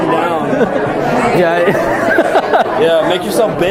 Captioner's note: chuckling